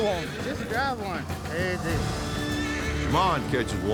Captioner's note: horse neighs